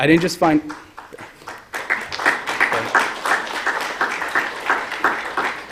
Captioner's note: applause